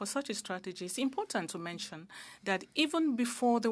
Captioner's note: speaking French